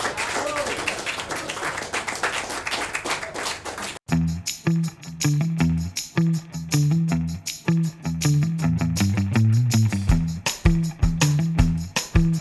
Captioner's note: applause